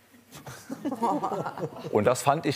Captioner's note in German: Zaghaftes Lachen